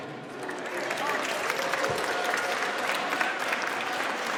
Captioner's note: audience applauds